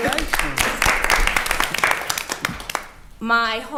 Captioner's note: attendees applauding